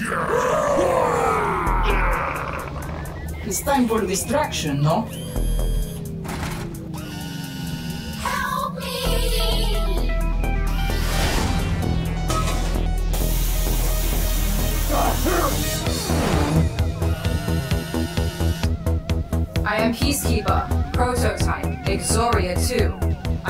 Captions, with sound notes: (all cheering) - It's time for distraction, no? (Mytra whirring) - Help me! (device hissing) (upbeat synth music) (Exoria whirring) I am peacekeeper prototype Exoria Two.